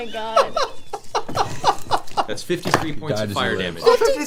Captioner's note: laughing